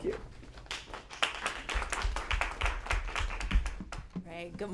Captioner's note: applause